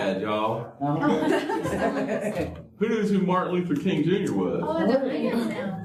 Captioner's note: laughter